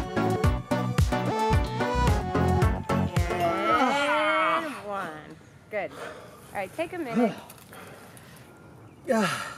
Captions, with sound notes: *grunting* And one...good. All right, take a minute.